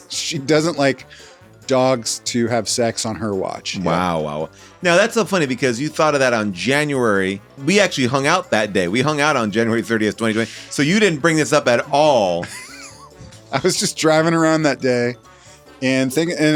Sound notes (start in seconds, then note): 12.3 laughs